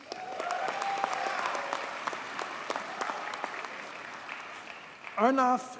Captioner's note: audience cheers and applauds